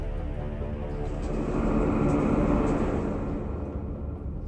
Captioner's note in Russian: Страшные звуки